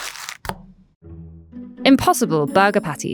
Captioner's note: patty thudding